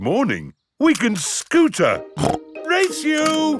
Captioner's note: snorts